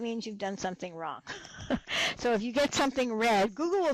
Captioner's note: laughs